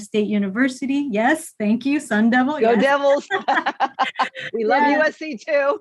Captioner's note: laughing